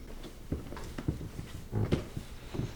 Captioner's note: footsteps